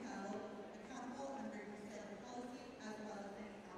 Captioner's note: none